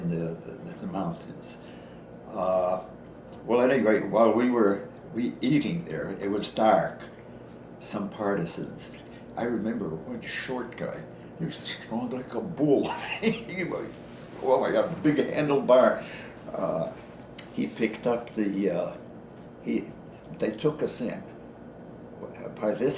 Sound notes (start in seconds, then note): 12.8 gestures with body and chuckles